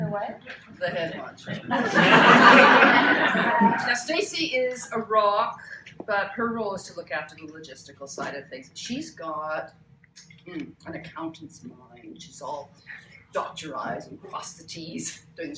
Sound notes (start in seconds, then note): 1.4 laughter